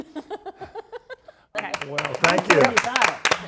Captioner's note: laughter